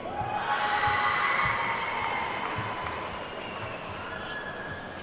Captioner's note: attendees whooping and clapping